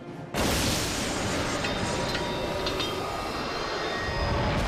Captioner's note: atmosphere rumbling